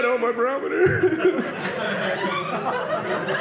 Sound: audience laughing

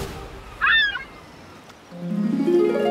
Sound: squawking

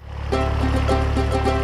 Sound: engine grinds; cheerful music

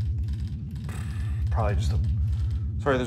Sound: sigh

